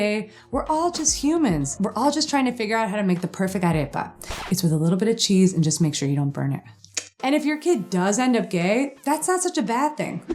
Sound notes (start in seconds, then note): 6.9 clicks tongue